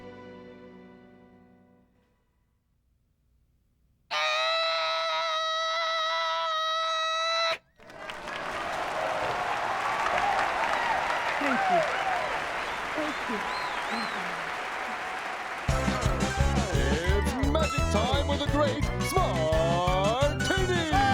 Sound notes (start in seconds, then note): 4.1 screams short "i" sound; 8.0 applause and cheering